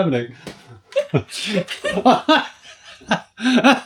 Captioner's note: laughter